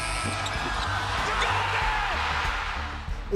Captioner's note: cheers and Applause